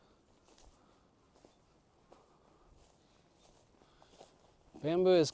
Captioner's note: footsteps